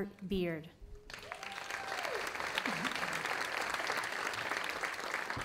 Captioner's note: audience applauding